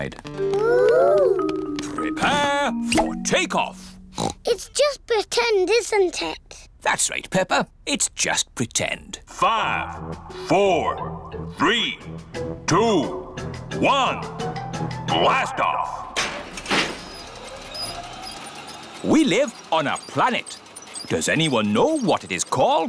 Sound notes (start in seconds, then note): 4.1 oinks; 9.8 on speakers